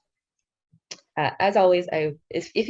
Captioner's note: speaking in foreign language